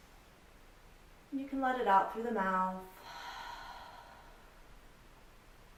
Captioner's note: audible sigh out through mouth